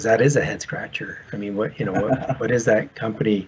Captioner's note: laughs